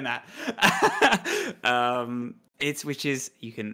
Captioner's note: laughs